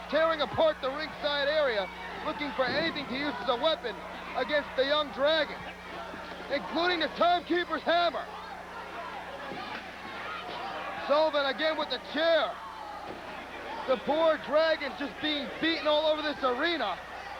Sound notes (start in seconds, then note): 9.0 crowd chatter